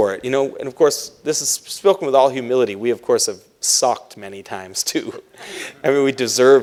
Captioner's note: laughs